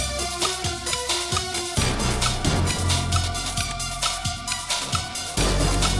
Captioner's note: suspenseful music playing; ticking continues